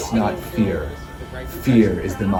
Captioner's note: voiceover